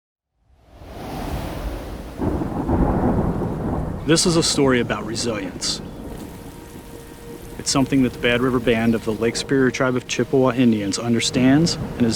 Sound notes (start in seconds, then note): 0.8 wind howling; 2.2 thunder booming; 5.9 soft music; 6.5 rain pouring